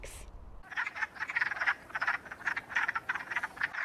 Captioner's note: frog calling